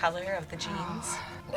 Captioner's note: sighs